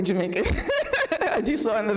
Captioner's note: laughing